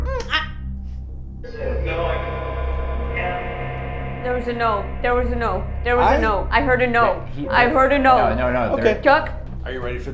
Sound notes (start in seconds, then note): 0.0 fear noises; 2.0 ghost noises